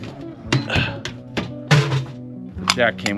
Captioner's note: grunting